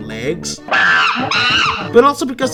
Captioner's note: monkey noises